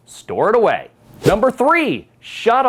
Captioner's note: text whooshes